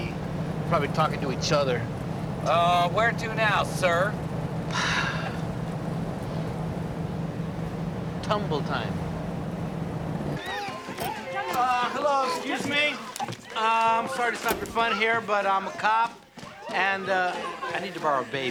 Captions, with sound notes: Probably talking to each other. Uh, where to now, sir? (sighs) Tumble-Time. (children chattering) Uh, hello, excuse me? I'm sorry to stop your fun here, but I'm a cop, and, uh, I need to borrow a baby.